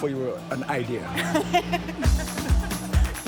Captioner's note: laughter; upbeat music